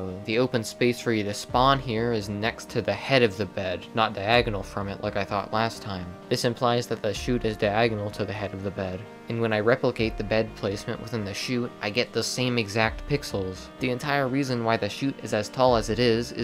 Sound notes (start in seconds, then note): none